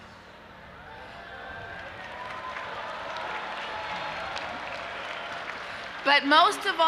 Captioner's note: audience applauding and cheering